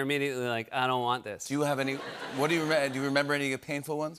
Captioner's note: laughter